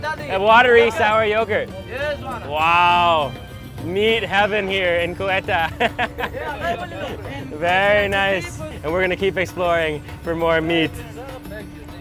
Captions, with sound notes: A watery sour yogurt. Wow! Meat heaven, here in, Quetta. (laughing) Very nice. And we're gonna keep exploring for more meat.